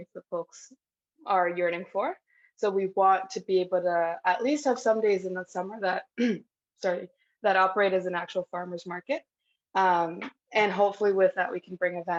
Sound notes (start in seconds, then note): 6.1 coughs